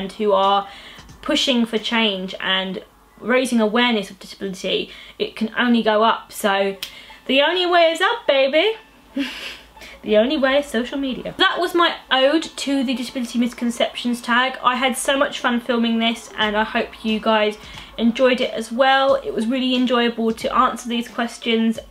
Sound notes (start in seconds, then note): 8.4 laughs